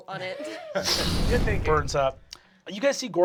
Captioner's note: sound of roaring flames